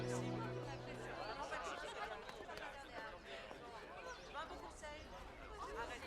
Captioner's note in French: bavardage indistinct